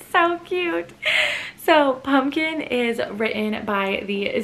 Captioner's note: gasp